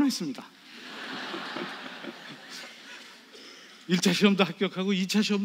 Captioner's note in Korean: 관객 : 웃음